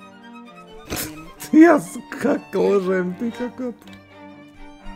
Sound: laughs in disbelief

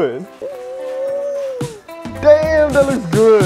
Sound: squeel

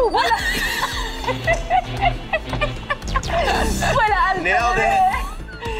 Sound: Úrsula laughing

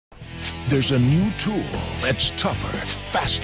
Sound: voiceover

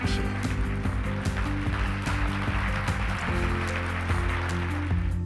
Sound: applauds

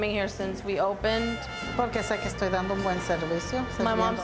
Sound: speaking Spanish

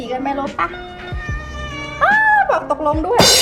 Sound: meow

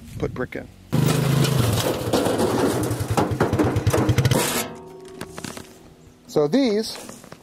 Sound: four wheeler motor rumbles; metal clanks

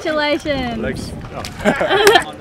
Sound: laughs

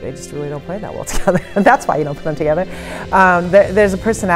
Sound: laughs

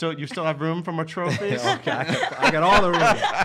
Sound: laughing

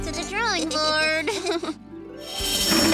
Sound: chuckles

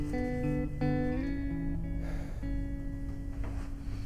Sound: exhale

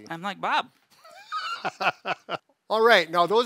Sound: laughing

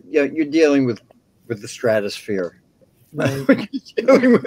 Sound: laughs

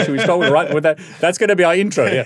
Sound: laughing

